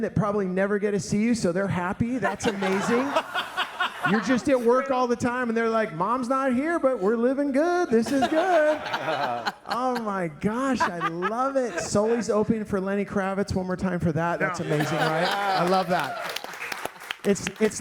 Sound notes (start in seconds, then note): 2.2 all laughing; 14.5 audience applauding